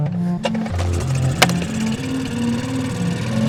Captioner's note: engine revs